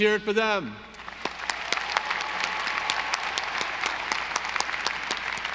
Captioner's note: audience applauding